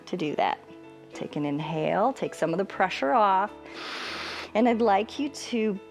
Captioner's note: inhales